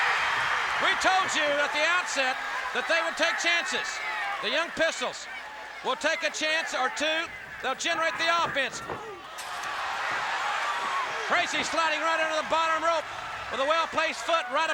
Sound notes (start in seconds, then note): 0.2 crowd cheering; 9.5 crowd chatter